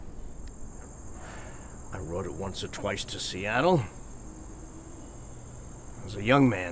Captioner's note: sighs